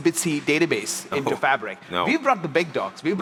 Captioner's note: chuckles